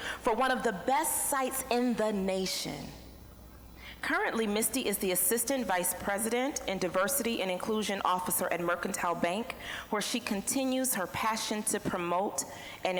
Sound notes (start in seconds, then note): none